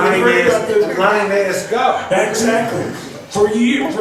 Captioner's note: laughs; voiceover